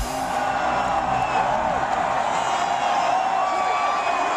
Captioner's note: cheering